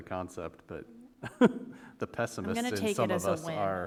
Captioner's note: chuckle